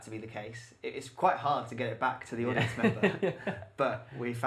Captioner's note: laughs